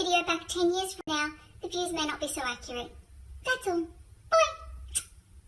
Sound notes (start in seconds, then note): 4.8 smooch